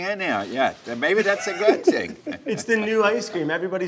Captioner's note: laughs